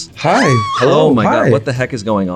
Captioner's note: screams